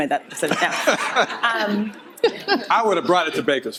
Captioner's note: audience laughter